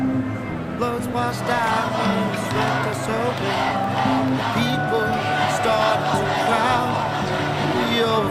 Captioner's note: chant